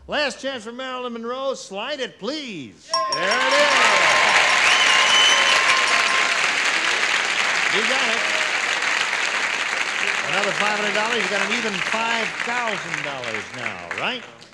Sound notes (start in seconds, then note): 2.9 ding; 4.2 applause